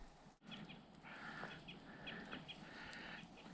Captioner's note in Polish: Ćwierkanie